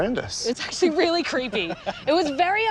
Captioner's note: laughs